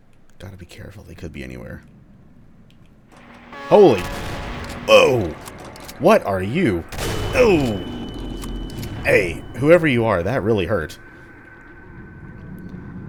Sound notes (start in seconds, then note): 3.2 radio static sound; 11.4 radio chatter, red shadow balls humming